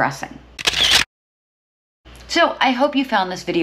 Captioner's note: camera shuttering